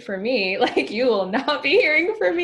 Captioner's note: laughing